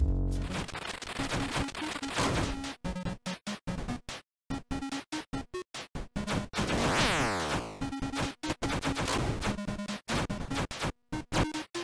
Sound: game sounds

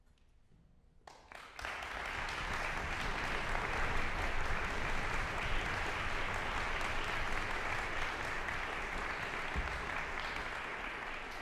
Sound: audience applause

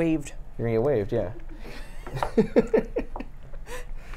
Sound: laughs

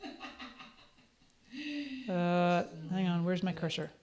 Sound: laughs

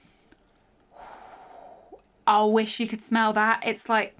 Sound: exhales

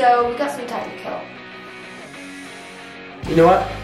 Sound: deep breath

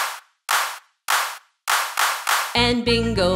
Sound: clap

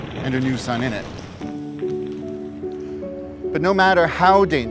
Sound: rocks rumbling

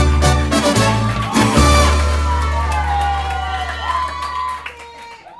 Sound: aplausos y gritos

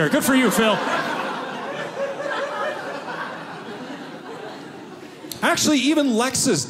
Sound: audience laughing

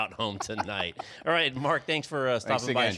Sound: laughs

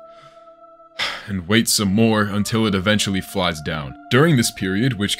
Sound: releases breath

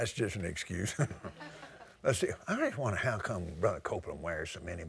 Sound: laughter

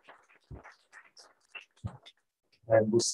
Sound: applause

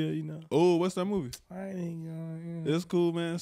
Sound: smacks teeth and mumbles

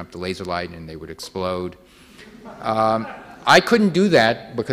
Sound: audience laughing

